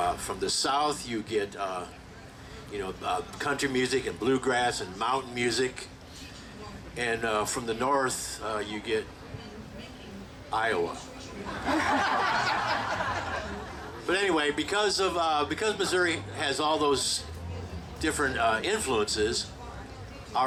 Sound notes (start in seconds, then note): 11.4 group laughing